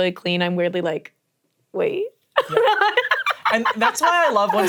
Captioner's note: laughs